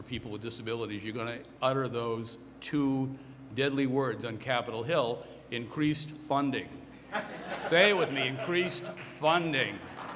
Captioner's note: applause